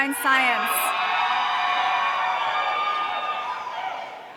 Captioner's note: audience cheering